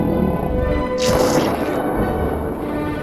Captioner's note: cannon firing